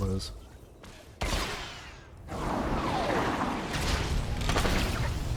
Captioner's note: gun firing